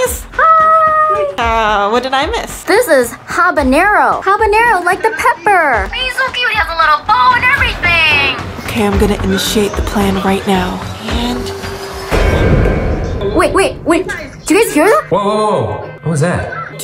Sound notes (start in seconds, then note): 11.0 banging noise